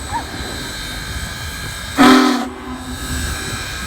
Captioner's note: horn blaring